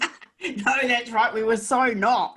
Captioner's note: laughs